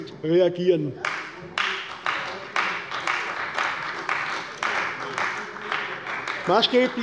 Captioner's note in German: Beifall bei der CDU